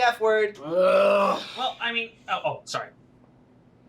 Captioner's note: groans